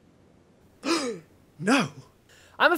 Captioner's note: gasp